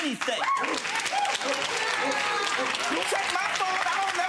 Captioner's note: audience cheering